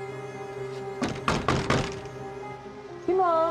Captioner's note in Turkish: Kapı vurma sesi